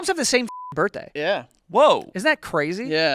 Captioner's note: beep